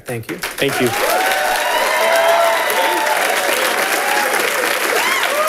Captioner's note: audience applauding